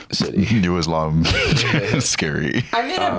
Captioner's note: laughing